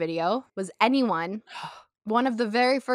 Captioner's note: gasp